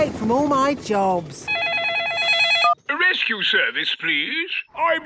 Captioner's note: phone ringing